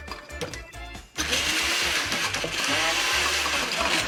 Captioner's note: blender whirrs